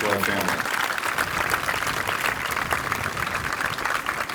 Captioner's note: applause